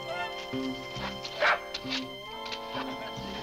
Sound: dog barks

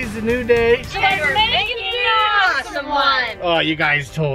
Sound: in Unison

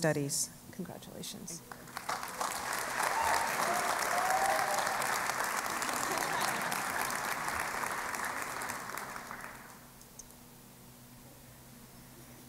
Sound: cheering and Applause

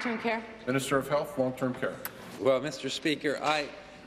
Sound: applause

